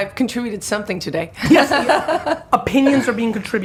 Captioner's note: laughing